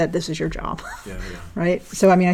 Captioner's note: laugh